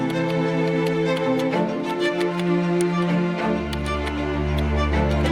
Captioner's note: computer keys clicking